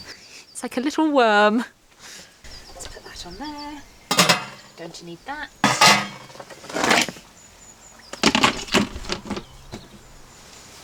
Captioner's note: lids clanging onto pot